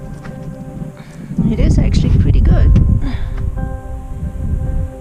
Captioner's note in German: Spannungsvolle Musik; seufzt